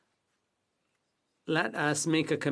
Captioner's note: speaking French